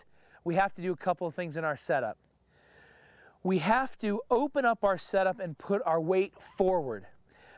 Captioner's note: none